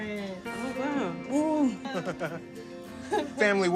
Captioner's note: chuckles